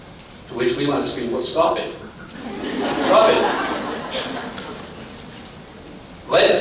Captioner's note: laughter